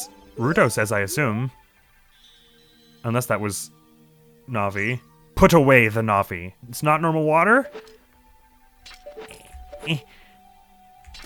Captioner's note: apprehensive sounds